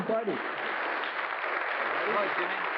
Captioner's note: applause